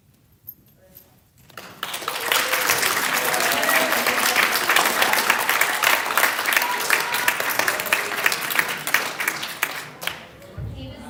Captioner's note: applause